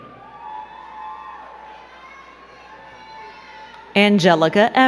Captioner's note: crowd cheering and clapping